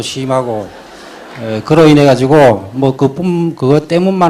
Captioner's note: audience Laughter